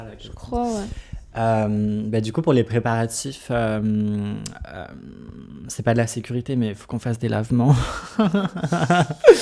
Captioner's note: laughs